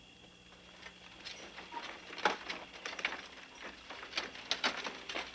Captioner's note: wagon rattling